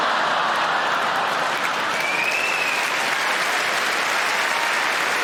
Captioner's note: audience laughing; audience clapping